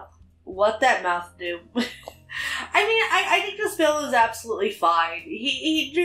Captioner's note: laughs